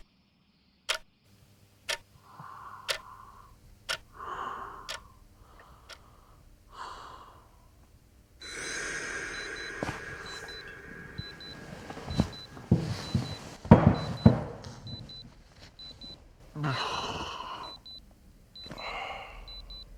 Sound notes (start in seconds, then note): 0.1 ticking; 10.1 alarm